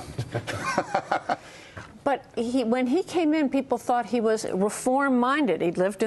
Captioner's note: laughter